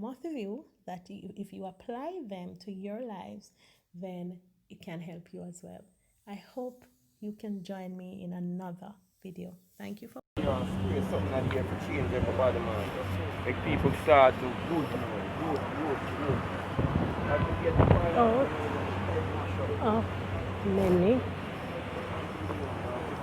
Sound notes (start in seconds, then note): 13.5 man speaks Jamaican Patois